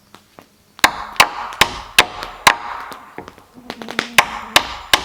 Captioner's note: hammering